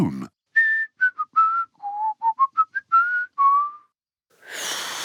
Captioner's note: whistles a tune; failed whistle